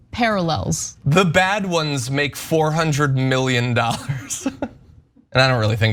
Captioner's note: laugh